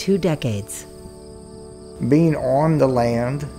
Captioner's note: crickets